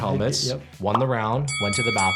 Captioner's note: bell rings